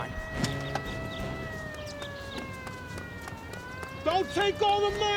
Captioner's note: sirens approaching